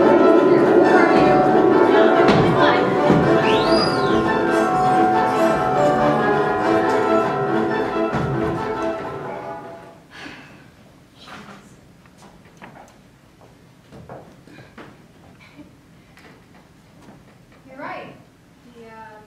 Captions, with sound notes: (whistling) (exhales sharply) You're right.